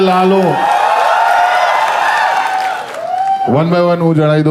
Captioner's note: crowd applauding